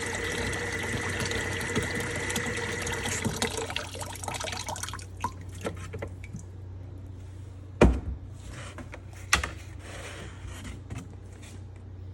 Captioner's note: sink creaks on, water sounds